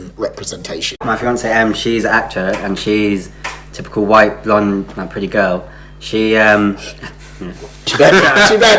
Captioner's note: laughs